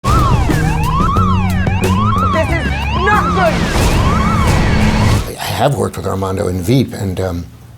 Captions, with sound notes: (upbeat music) (sirens blaring) - This is not good! (loud rumbling) - I had worked with Armando in "Veep", and